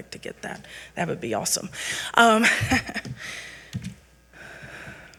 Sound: chuckles

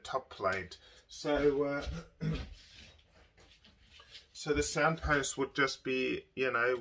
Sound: clears throat

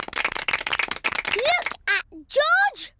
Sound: applause

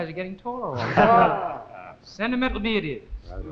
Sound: laughs

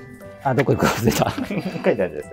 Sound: laughing

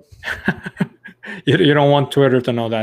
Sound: laughs

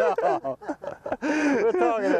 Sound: laughter

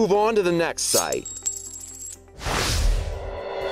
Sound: coins jangling; whooshing

